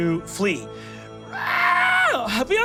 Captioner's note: screams